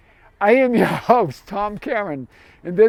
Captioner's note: laughs